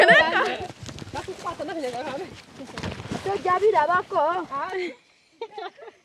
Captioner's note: women speaking in foreign language